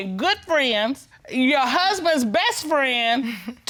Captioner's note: chuckles